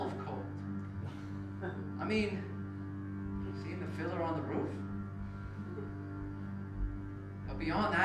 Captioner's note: laugh